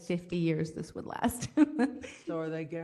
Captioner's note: laugh